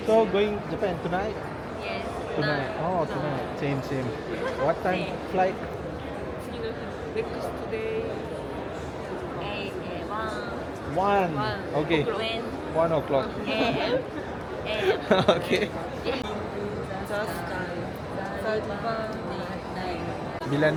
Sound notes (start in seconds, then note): 6.5 speaking Japanese; 14.7 laugh; 17.1 speaking Japanese